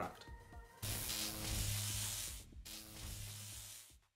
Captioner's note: electric Buzz